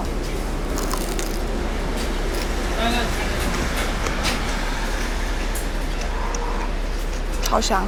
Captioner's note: super crispy sound